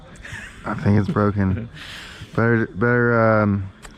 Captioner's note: laughs